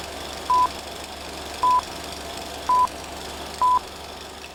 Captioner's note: beeping